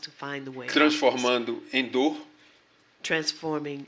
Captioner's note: speaking portuguese